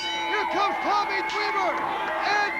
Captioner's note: bell ringing